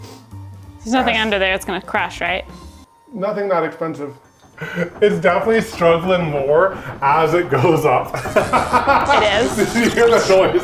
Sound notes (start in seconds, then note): 7.8 laughs